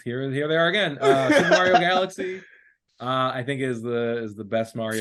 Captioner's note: laughing